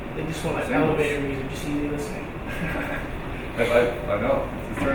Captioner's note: laughing